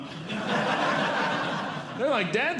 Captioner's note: audience Laughing